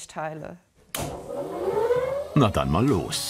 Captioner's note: loud whirring